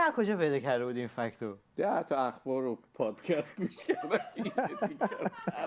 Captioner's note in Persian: خنده